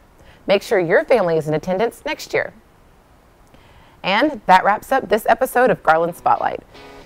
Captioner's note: none